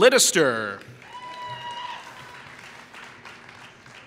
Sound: applause

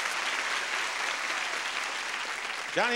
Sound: audience applauding

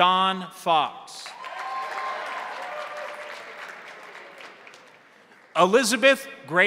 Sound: crowd cheering; crowd applauding

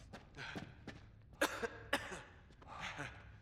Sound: coughs

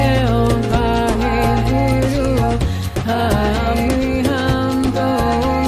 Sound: chanting in foreign language

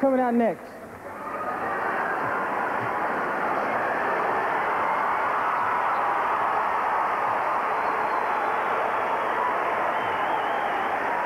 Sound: screaming

